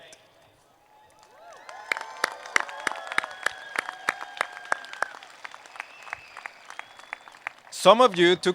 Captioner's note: applause